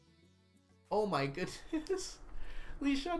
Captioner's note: laughs